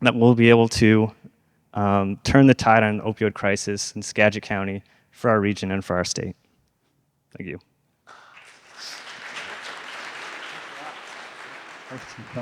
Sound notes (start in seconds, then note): 8.0 audience applauds